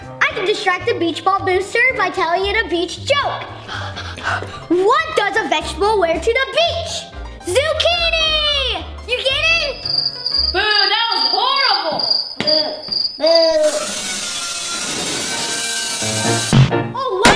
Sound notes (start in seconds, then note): 0.0 gasps; 9.0 crickets chirping; 13.6 machine whirring